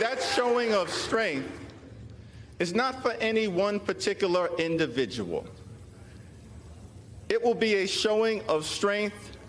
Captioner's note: applause